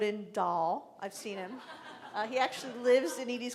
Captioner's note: laughing